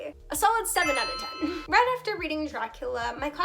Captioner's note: sparkle sound